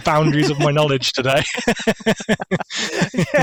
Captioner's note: laughter